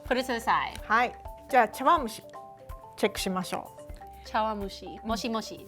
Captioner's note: speaking Japanese; speaking Japanese